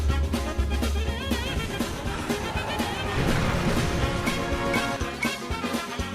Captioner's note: spaceships flying